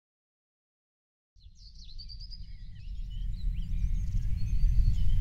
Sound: birds chirping

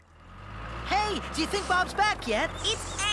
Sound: engine Running

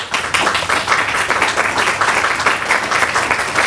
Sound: clapping

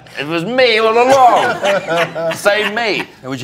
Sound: all laughing

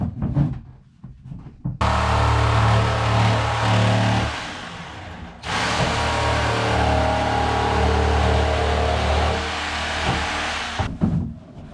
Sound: drilling; footsteps

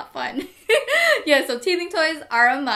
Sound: laughs

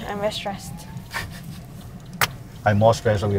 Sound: laughs

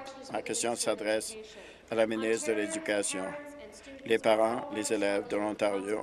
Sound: some Applause

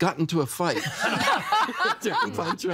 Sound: everyone laughing

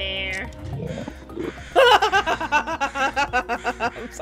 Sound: gasps; laughter

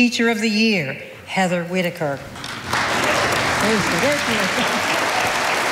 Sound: audience applauding

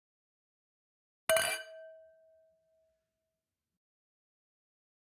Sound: sound of glasses

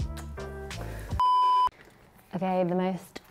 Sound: screen beeping

